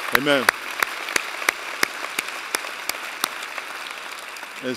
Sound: applause

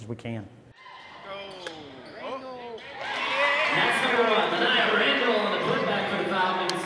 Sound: cheering

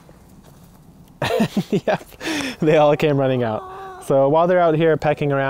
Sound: laughing

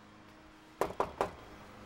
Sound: knocking

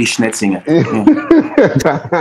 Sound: laughter

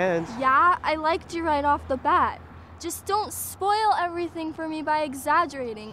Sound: none

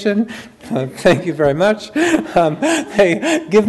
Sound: chuckles

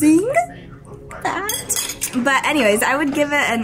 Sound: cutlery clinks

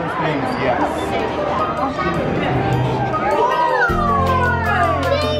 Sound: children exclaiming

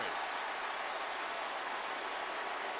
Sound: crowd cheering

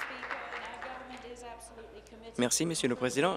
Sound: applause

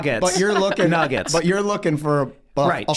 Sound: Meg laughing

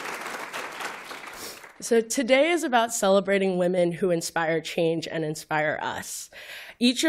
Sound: applause

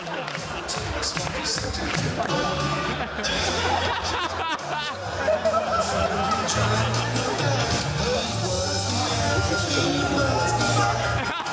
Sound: cheers

